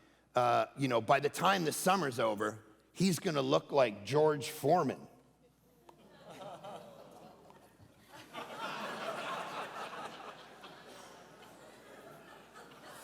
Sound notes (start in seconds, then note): 6.0 congregation laughing